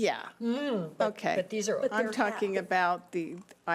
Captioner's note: playfully groans